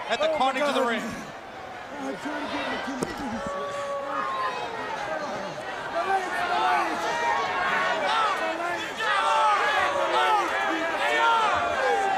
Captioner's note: crowd chatter